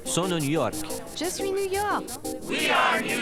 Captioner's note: French